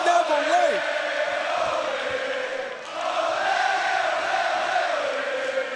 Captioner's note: crowd chants "Ole, ole ole ole